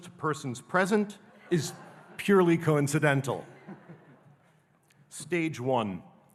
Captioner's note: audience laughing